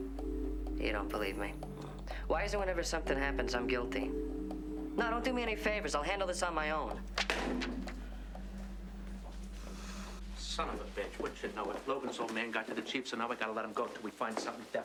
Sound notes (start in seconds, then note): 0.0 tense music; 7.2 phone slams